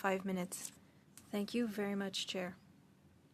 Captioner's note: speaking French